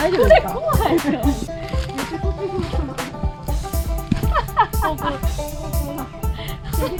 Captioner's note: laughs